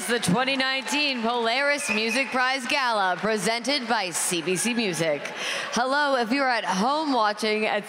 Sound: applause

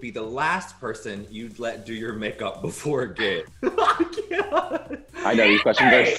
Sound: laughs

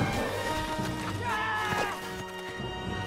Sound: yelling

